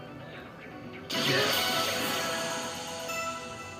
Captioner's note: bursting